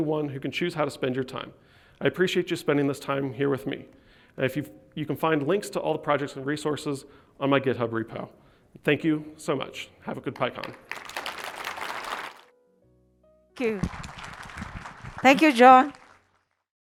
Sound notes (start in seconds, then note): 13.6 applause